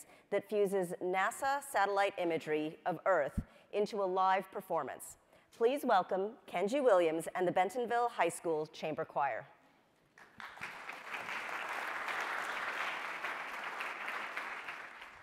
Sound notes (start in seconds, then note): 10.2 audience applauding